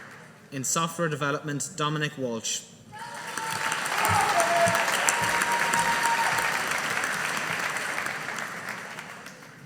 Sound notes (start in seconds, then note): 3.0 audience applauding